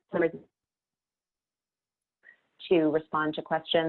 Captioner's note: audio cuts out